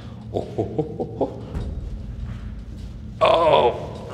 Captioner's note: imitating a gorilla